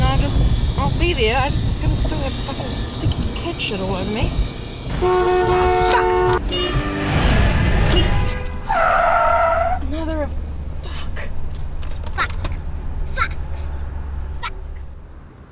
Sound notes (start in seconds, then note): 4.9 car honks loudly; 7.0 car screeches